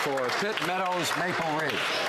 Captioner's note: some Applause